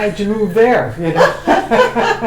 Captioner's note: laughter